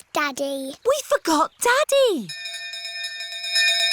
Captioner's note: bell continues dinging